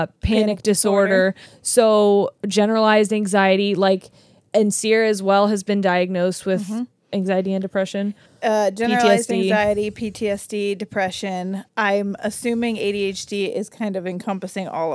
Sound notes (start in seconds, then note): none